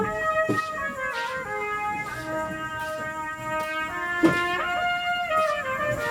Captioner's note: shuffling foot steps